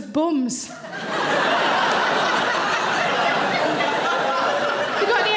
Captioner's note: audience laughing